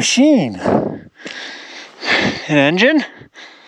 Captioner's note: panting